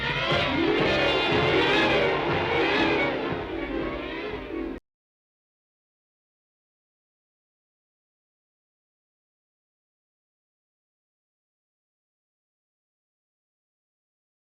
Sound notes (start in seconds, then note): 1.7 wind whistling